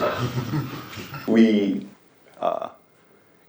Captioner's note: laughing